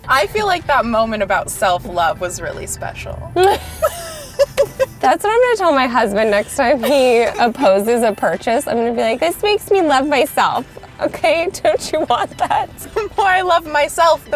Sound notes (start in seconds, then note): 3.3 both laughing